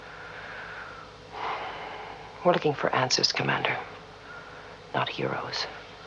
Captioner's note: suspira